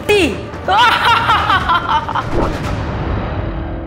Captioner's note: laugh